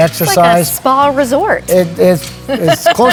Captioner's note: laughing